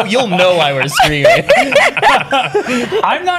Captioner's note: laughter